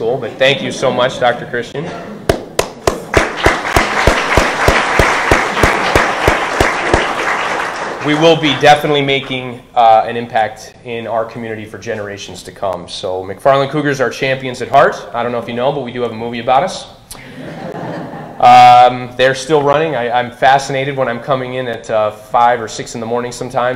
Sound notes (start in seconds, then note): 2.5 audience applauding